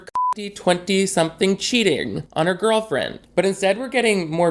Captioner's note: beep